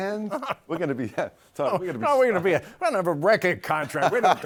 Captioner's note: laughs